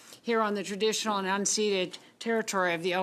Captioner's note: speaking French